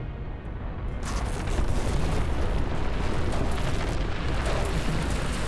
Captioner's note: volcano erupting